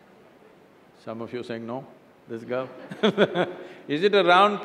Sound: laughs

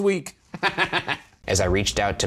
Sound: laughs

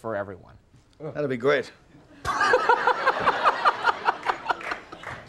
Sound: Conan laughing

